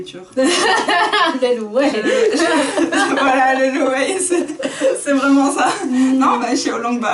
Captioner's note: laughs